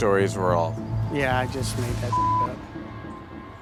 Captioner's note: beeping